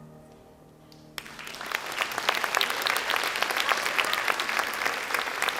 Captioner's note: audience applauds